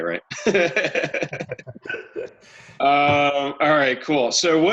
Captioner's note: both chuckling